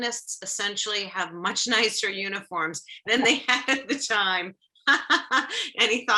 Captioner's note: laughs